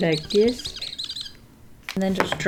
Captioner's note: marker squeaking